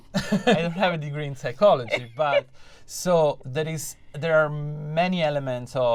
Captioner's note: laughter; laughter